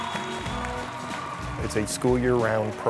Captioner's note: crowd cheering